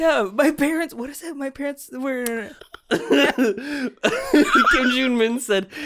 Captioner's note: giggling